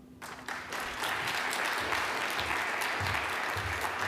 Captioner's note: crowd claps